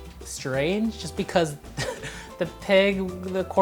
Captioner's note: laughing